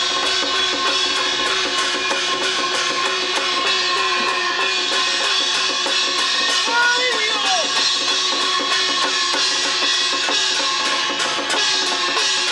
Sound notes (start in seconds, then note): 6.6 non-english speech